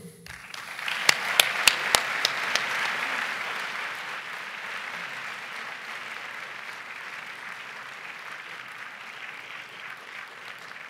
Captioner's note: applause